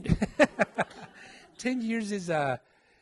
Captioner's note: laughing